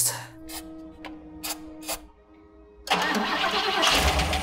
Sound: fluid spurts; engine cranks

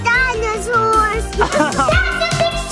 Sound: laughs

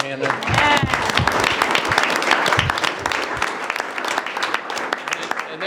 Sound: group applauds and cheers

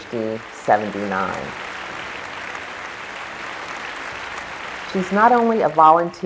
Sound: applause

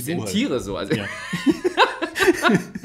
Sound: laughs

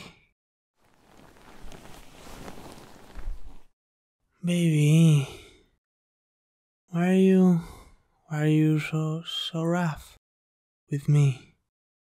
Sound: sheet noises

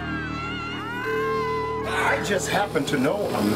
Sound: everyone screaming in discontent

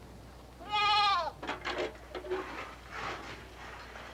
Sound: bleating

